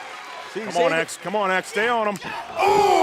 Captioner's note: crowd cheering